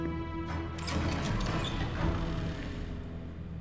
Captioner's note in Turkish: Kapı açılma sesi